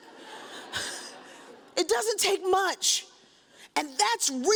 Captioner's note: audience chuckles